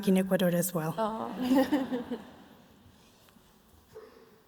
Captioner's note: laughs